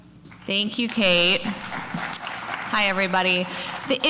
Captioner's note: applause